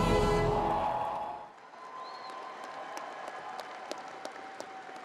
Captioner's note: crowd applauding